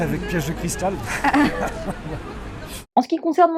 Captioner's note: laughter